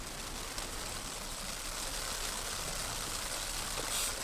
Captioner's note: rain pattering